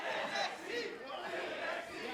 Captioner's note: fans chanting